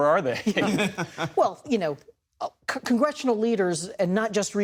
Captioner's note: laughter